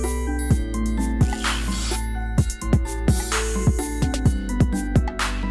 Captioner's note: electric zapping